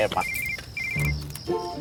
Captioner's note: cell phone sounds